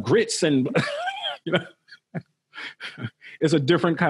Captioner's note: laughing